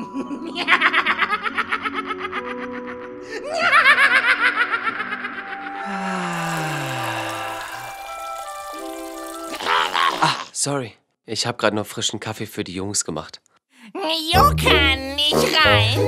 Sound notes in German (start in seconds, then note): 0.0 creepy Lachen xD; 5.9 plitschernde Geräusche